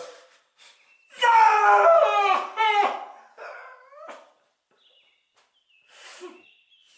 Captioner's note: Phil screams